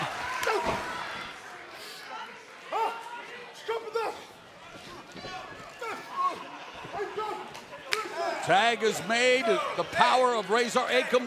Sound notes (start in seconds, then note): 8.8 crowd chatter